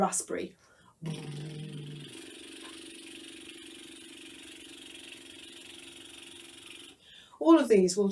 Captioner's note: lip trill